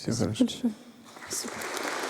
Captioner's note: applause